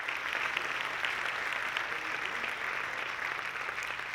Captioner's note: audience clapping